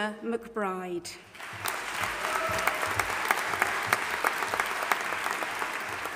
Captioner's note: audience applauding and cheering